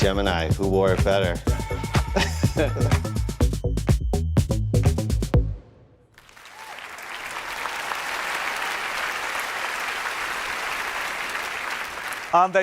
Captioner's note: applause